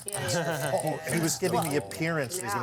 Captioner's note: laughter and chatter